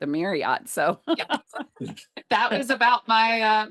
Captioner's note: laughter